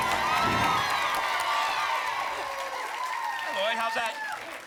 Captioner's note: whoosh; applause and cheering cont